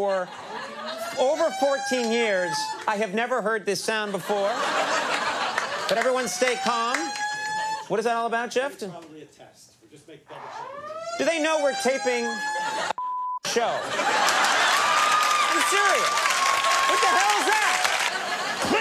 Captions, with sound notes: 14 years. Over 14 years. I have never heard this sound before. But everyone stay calm. What is that all about, Jeff? I think it's probably a test. We'll just double-check and make sure. Do they know we're taping a (beep) show? (audience laughs) I'm serious! What the hell's that?